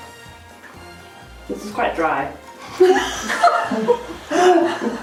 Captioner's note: laughs